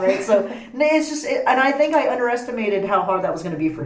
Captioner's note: laughs